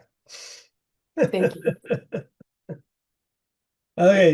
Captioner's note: laughing